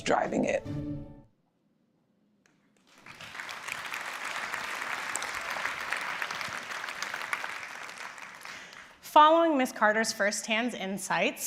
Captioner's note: applause